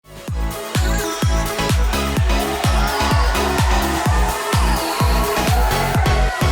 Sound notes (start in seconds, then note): 0.1 uptempo pop music; 2.5 crowd cheering